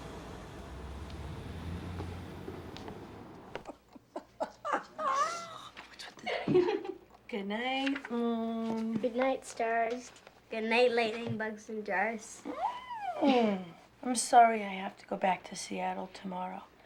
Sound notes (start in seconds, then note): 3.6 claire laughs; 12.0 squeals; 13.0 chuckles